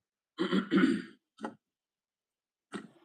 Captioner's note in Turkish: boğazını temizler; öksürme